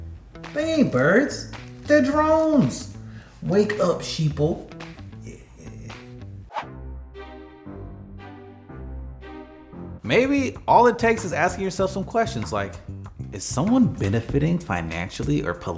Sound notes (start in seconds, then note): 6.4 post swooshing; 6.5 suspicious music